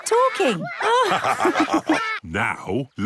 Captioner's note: all laugh